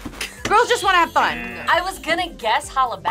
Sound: buzzer; buzzer rings

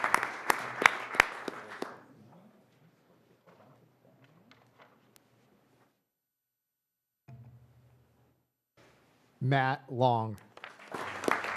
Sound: applause

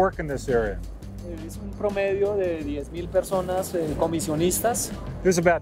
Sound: speaking Spanish

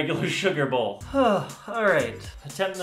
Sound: sigh

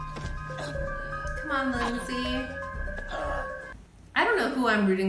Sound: Lindsey loudly choking

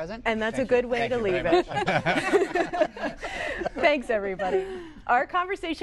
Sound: laughter

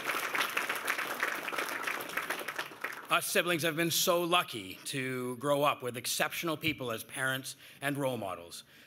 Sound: cheers and Applause

